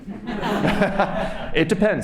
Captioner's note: laughter